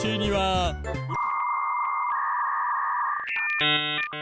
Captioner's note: dial-up tone blares